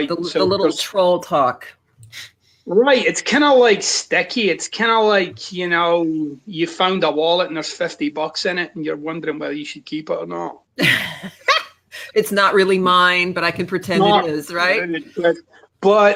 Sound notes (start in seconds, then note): 10.8 laughs